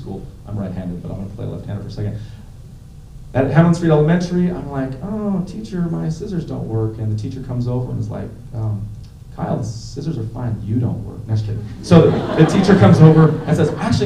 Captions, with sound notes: I'm right-handed, but I'm going to play a left-hander for a second. At Hamlin Street Elementary, I'm like, oh, teacher my scissors don't work. And the teacher comes over and is like, Kyle, the scissors are fine. You don't work. Just kidding. [laughter] The teacher comes over and says, actually